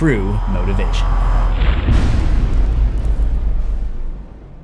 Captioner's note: impact